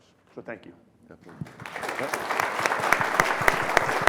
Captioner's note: applause